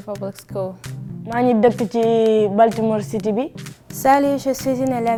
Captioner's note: speaking Anuak; speaking Wolof; speaking French